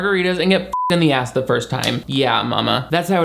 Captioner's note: beep